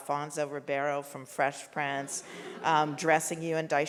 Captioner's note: audience laughs